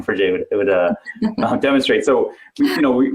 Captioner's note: giggling